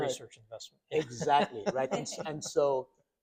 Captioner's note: doctors laughing